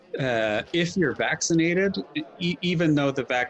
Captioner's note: people chattering